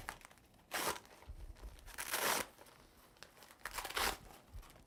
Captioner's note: cuff fabric releasing